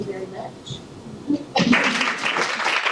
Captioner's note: applause from audience